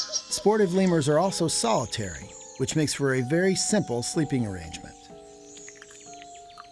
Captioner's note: none